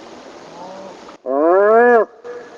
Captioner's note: imitating animal call; animal call; imitating animal call